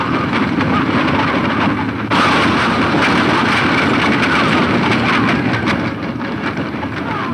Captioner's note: running hoof beats and wagons rattling